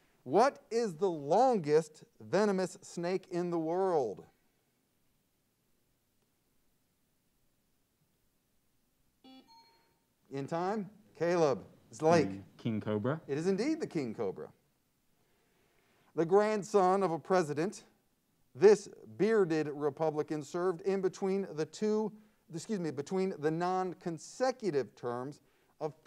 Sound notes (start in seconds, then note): 9.2 buzzer sounds; 9.4 bell rings